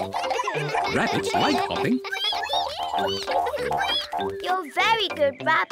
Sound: all giggle; all squeak

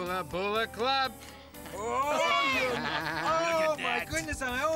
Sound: animals laughing

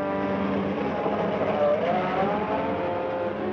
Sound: engine rumbles

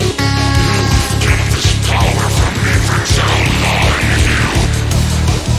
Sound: echo

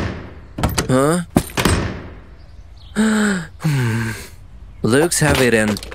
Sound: deep sigh

